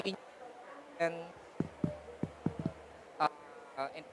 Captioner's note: microphone cuts out